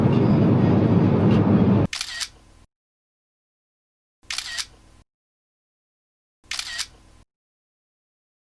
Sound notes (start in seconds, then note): 2.1 camera shuttering